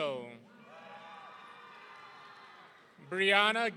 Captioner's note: audience cheering